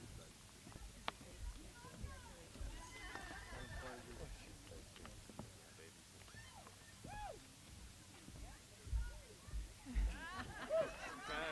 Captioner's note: applause